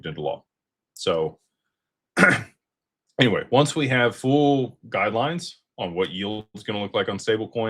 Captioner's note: clears throat